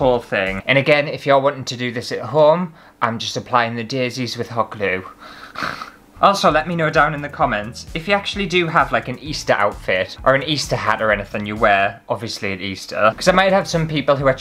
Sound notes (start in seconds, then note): 5.3 sarcastic Snort